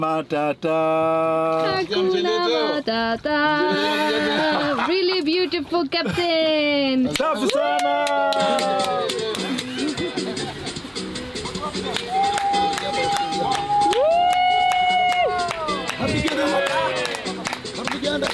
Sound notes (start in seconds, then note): 7.1 clapping, cheering; 8.4 laughing; 11.1 lively music; 11.9 cheering, clapping